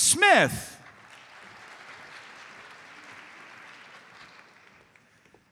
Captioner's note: audience applauds